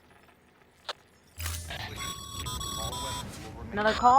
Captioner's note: radio call